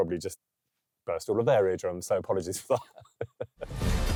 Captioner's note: laughing